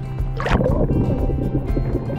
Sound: uplifting music; water splashes

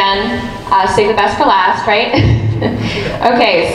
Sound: laughs

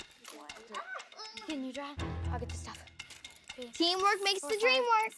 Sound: suspenseful music; busy murmuring

